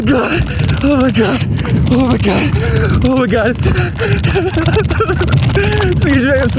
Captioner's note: sobbing